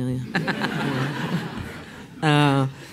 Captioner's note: laughs